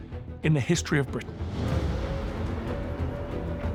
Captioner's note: air-raid siren blaring